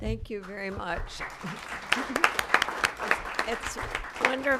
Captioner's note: applause